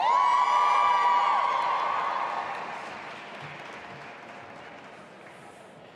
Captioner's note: audience applauding and cheering